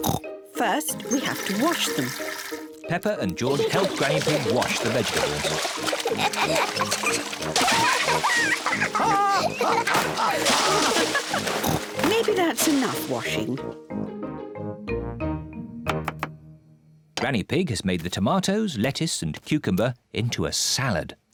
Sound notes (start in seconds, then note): 0.0 oinks; 5.9 both laugh; 9.0 laughs